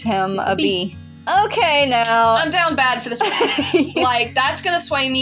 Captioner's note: laugh